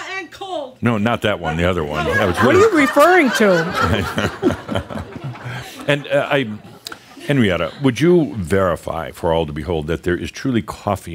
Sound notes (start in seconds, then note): 1.9 more laughter